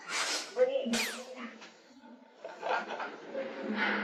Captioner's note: laughs uncomfortably